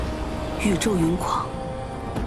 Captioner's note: the storm and rain rage